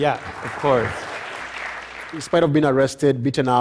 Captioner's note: applause